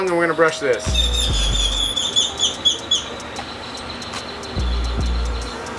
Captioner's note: squeaky